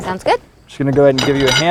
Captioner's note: high pitched pinging of aluminum balusters, no additional audio